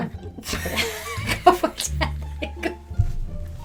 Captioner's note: laughing